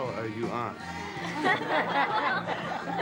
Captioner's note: laughter